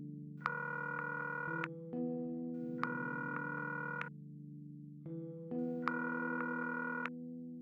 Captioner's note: line ringing